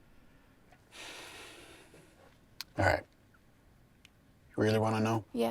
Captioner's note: sighs